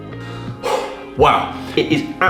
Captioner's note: exhales dramatically